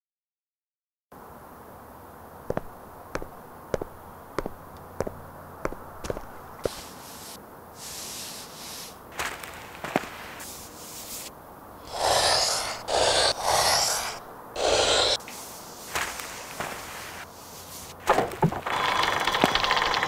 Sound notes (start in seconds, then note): 2.4 thump of footsteps; 6.6 swoosh of fabric; 11.8 marker scratching; 18.1 wooden thunk